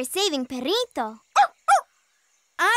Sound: barking

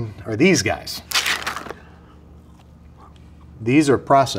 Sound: packaging rustling

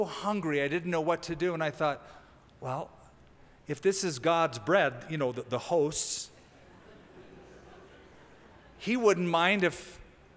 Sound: laughter

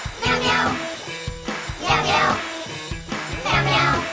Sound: none

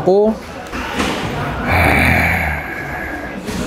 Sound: growl!

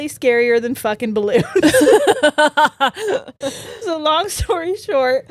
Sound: both laughing

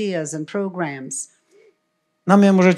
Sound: foreign language

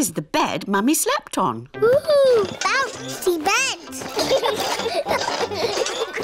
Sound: children laugh

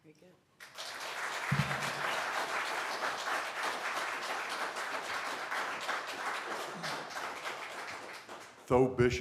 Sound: applause

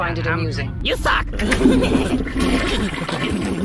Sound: toilet flushes; laughing stupidly

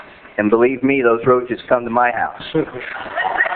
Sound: laughter

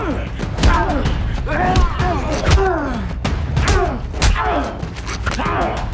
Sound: Knox groans; Dalton groans

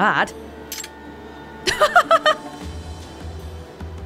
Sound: chuckles

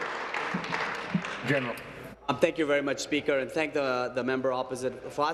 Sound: applause

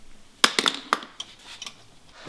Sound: clatters

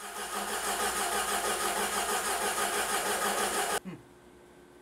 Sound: engine cranking

